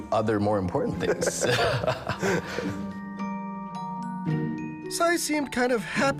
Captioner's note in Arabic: المضيف ويضحك